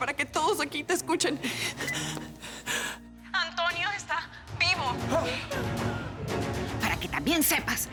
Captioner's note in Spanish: Bip